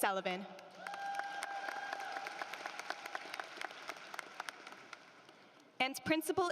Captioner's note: applause